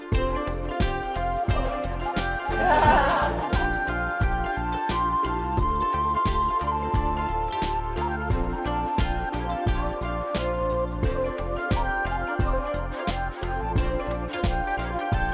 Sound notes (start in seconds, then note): 2.5 laughter